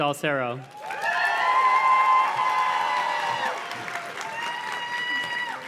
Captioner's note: audience cheers and claps